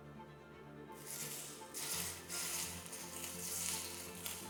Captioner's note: sizzling sound